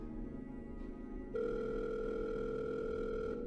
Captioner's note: phone ringing